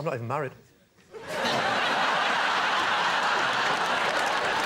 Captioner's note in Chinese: 笑声